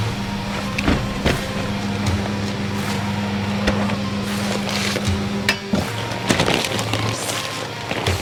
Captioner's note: plastic cooler slides across truck bed